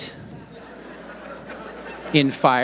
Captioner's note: audience laughing